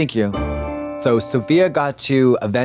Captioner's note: bright chime